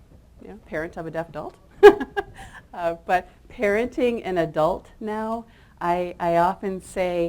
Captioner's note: chuckles